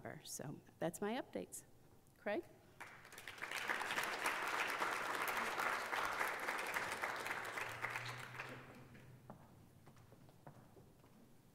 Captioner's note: applause